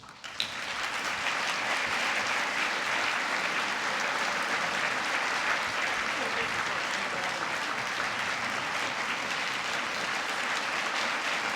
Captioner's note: applause